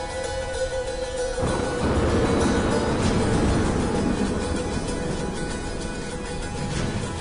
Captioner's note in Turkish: Yıldırım Düşme Sesi